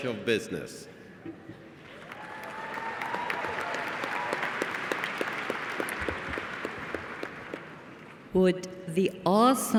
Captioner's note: applause